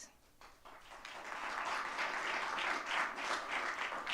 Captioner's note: audience clapping